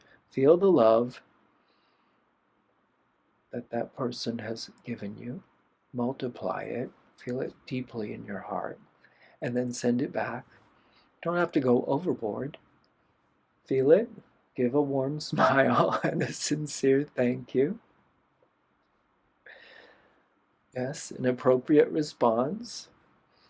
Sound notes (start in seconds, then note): 15.4 laughter